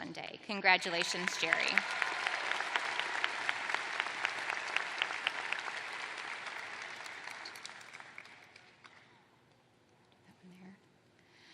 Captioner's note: applause